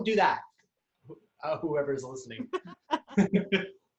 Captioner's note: laughs